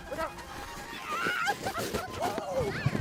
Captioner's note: laughing